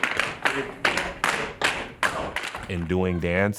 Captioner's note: shoes tapping